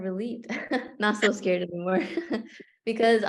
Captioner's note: laughter